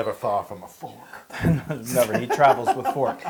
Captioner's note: laugh